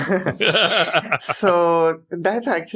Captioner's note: laughs